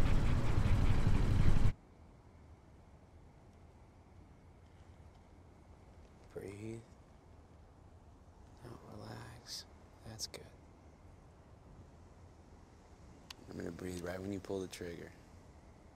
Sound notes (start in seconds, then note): none